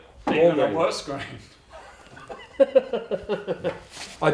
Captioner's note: both laughing